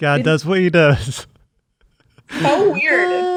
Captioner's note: laughing